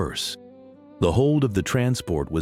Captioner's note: silence